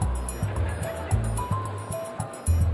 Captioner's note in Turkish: Gülme efekti